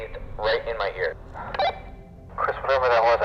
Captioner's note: walkie-talkie blips